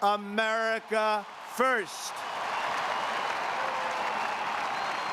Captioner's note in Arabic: الجمهور يهتف ويصفق